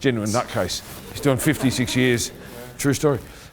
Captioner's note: laughing